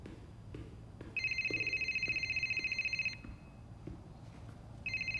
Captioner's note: cell phone rings; rings